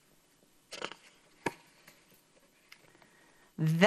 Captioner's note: paper rustles